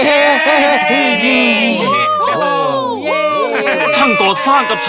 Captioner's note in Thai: เสียงเฮ